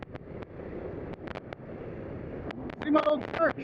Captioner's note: motor rumbling